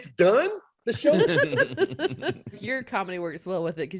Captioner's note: laughing